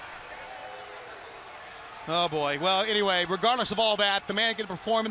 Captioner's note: crowd cheering